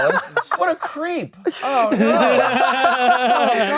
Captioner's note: laughing